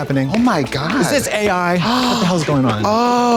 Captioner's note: gasps